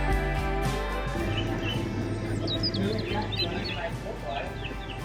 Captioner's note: birds chirping